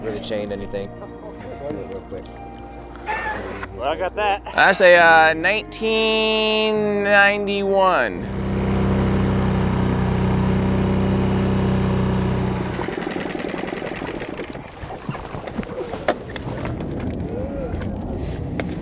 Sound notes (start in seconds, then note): 8.2 engine revving